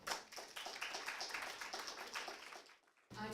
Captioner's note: applause